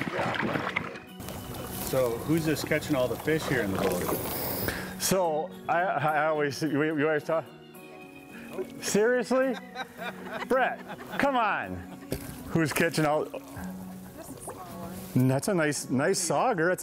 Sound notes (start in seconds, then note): 9.5 chuckles